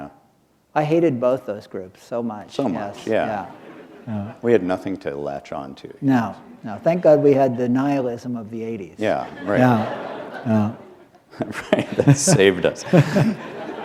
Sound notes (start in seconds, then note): 9.1 laughter